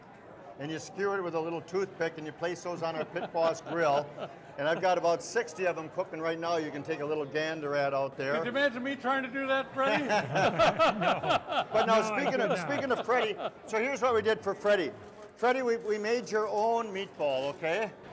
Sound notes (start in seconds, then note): 4.0 laughs; 9.7 all laugh